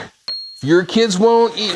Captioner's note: image dings